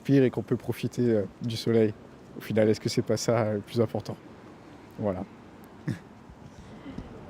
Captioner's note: laughter